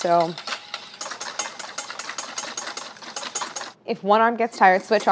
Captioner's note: metal clanging